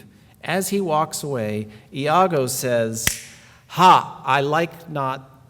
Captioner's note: snap